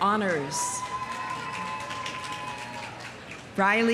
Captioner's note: audience cheering; audience applauding